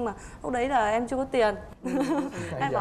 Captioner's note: laughing